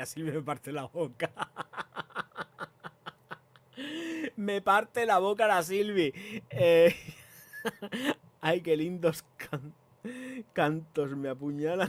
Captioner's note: laughs